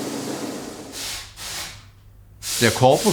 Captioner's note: hiss